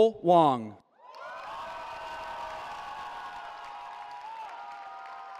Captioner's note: cheering